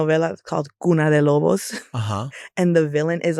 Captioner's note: speaking Spanish